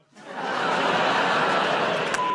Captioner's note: laughter, groaning